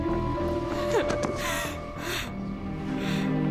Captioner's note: sniffling; crying